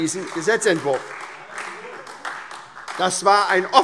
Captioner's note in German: Beifall SPD